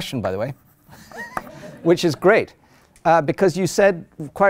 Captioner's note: chuckles